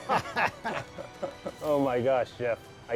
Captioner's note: laughing